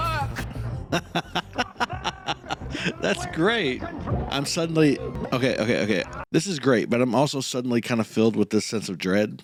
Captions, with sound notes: [laughing] That's great! I'm suddenly... Okay. Okay, okay. This is great. But I'm also suddenly kind of filled with this sense of dread.